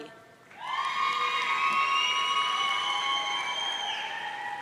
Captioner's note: audience cheering